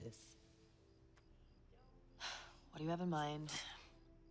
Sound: sighs

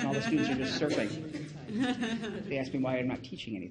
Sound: woman laughing loudly

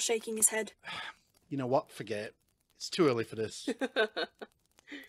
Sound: James laughs

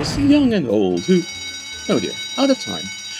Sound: bell rings

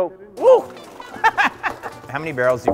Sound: laughs

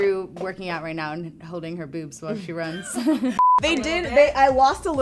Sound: laughs

